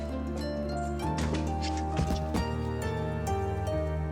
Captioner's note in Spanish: ruido al patear algo